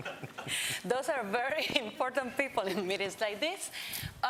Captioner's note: laughter; laughs